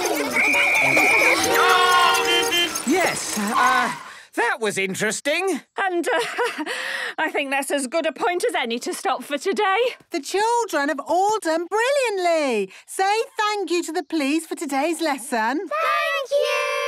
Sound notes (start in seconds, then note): 0.0 beeping; 0.0 whistle blowing